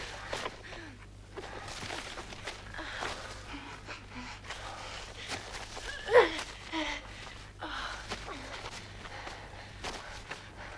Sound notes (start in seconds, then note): 4.4 Hundra breathing heavily